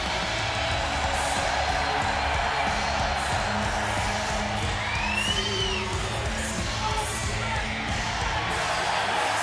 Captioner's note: cheers and applause